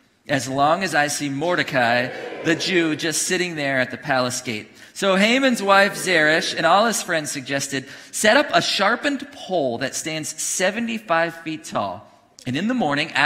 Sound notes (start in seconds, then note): 1.4 congregation cheering; 5.3 congregation booing